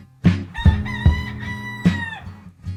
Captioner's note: rooster crow